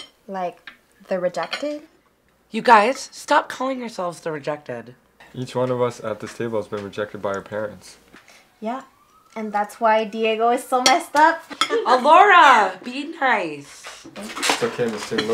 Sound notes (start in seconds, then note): 11.5 girls laughing